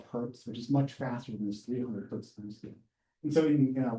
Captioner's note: speaks faintly